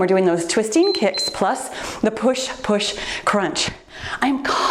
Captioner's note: timer beeps